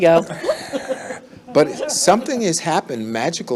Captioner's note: laughs